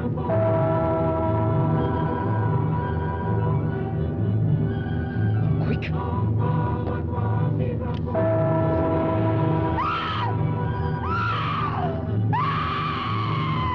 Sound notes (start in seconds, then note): 10.1 Pat screaming